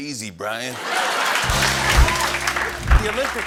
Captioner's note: applause